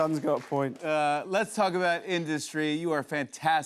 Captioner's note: normal voice